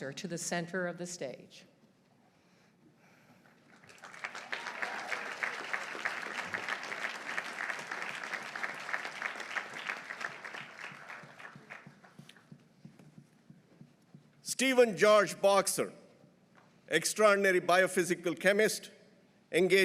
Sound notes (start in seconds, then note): 3.6 audience applauding; 3.9 audience cheering